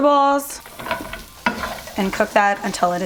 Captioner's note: hissing